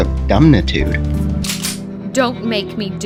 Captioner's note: gun cock